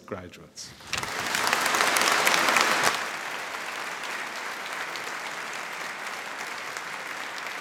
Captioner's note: applause